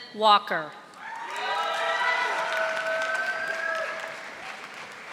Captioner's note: audience applauding